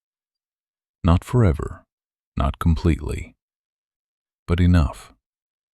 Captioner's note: quiet and steady